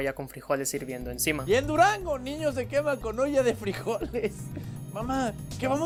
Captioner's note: laughs